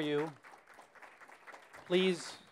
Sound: audience applause

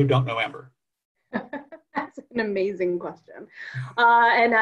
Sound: laughs

